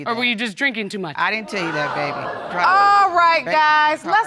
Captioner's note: audience exclaiming